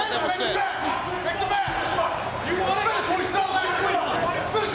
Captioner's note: people chattering